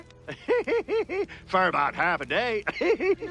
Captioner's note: laughs